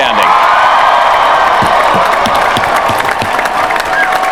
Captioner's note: applause